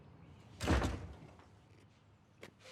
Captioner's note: door slams shut